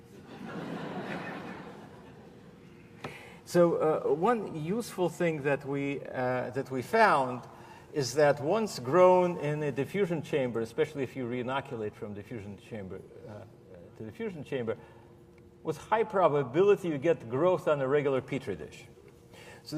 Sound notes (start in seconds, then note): 3.2 laughter